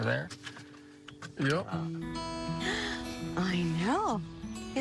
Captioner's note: woman gasps